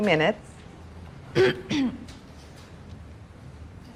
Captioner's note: attendee clears throat